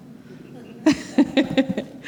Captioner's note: laughter